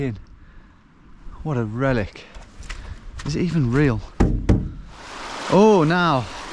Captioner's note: hand thudding